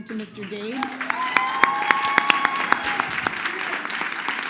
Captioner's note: crowd cheering